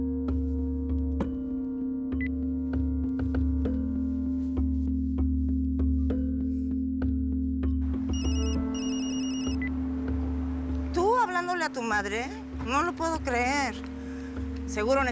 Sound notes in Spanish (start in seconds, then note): 4.0 Clic; 10.2 Suena el celular; 11.0 Clic